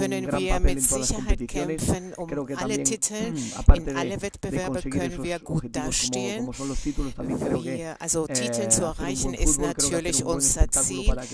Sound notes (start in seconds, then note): 3.2 coughs